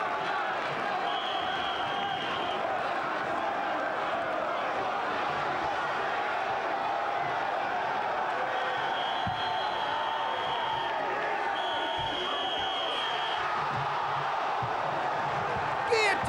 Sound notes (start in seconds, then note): 1.1 whistle blowing; 8.8 whistle blowing; 13.7 crowd gasping